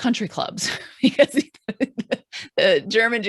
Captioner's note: laughs